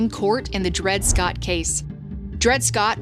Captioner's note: graphic whooshes